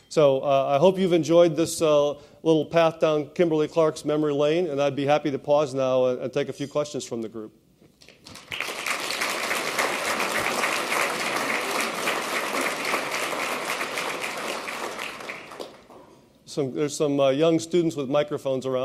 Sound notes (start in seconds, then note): 8.0 applause